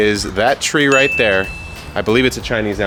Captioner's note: bell pinging